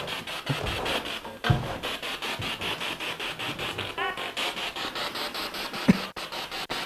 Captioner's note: noise of the spiritbox in the background